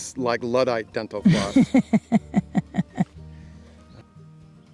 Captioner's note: woman laughs